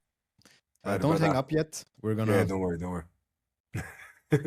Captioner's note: laughs